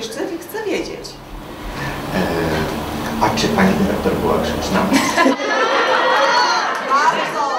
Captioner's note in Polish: "Wybuch śmiechu" widowni